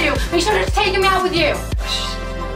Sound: murmurs

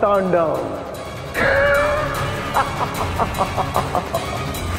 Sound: evil laughter

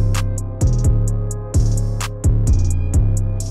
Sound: click; upbeat music playing

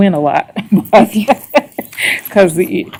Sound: laughs

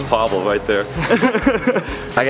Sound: laughs

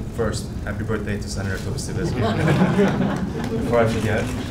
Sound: audience laughing

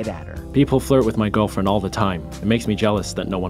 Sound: voiceover

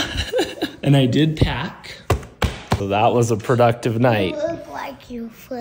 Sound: laughs

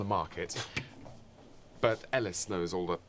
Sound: scoffs

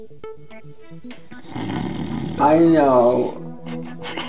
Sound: snoring

